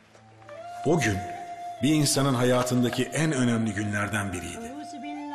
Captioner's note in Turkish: Ahmet dış ses